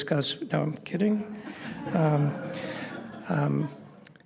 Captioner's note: laughter